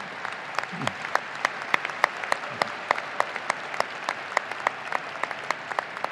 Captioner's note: audience applauding and cheering